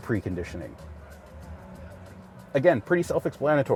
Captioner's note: crowd chattering indistinctly